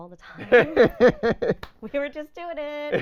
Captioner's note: laughing